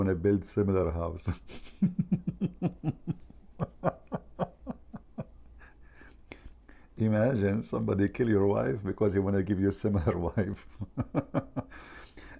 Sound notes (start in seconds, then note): 1.3 Ketawa